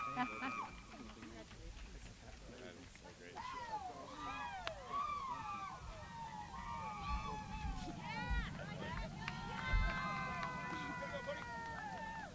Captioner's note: applause